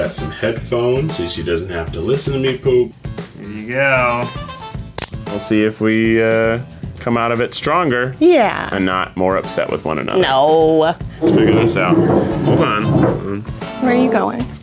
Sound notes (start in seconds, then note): 4.9 clicking cuffs